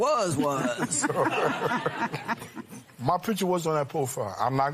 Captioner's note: laughter